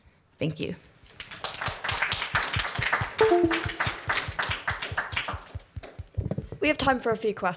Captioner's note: applause